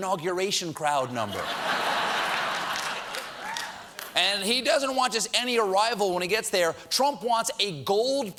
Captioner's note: laughter